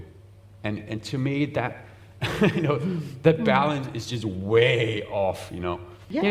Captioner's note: chuckles